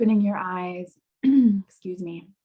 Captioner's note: clearing throat